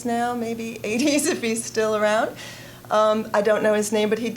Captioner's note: chuckling